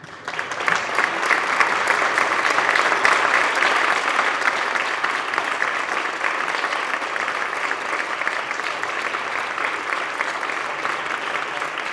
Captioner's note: applause